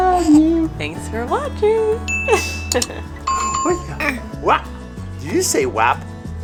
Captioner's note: baby mumbling